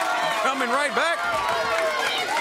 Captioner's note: crowd cheering